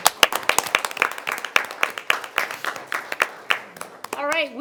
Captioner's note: everyone applauding